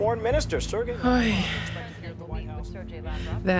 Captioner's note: sighing